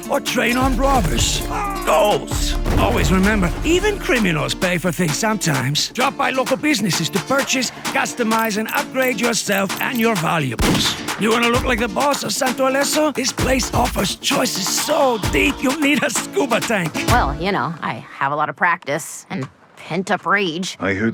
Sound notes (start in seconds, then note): 10.6 gunshot cracks